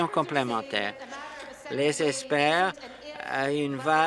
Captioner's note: applause